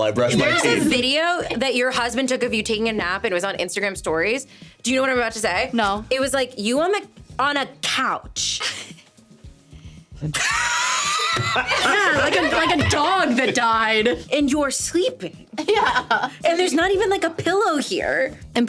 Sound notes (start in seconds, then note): 10.4 everyone laughing; 15.6 laughing